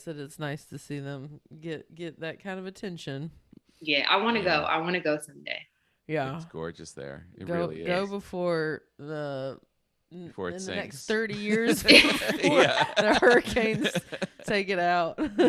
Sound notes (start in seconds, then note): 10.4 laughing